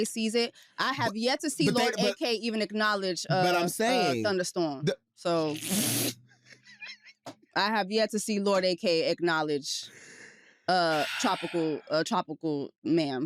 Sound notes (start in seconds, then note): 3.3 laughs